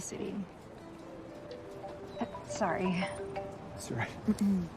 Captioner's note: phone ringing